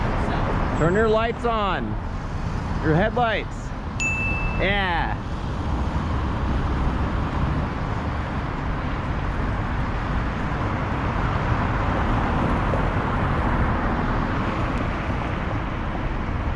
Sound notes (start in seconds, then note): 4.0 ding